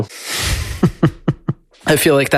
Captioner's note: laughs